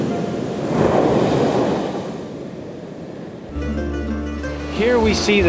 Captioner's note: sound of the ocean waves